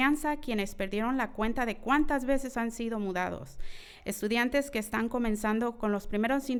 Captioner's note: continues speaking in foreign language